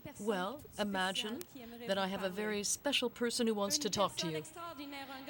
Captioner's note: speaking French